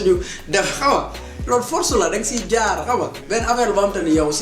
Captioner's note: laughs